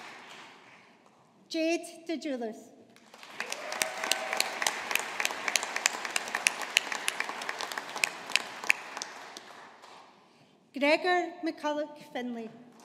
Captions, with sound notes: Jade Dejuliis. (AUDIENCE APPLAUDING) Gregor McCulloch Findlay.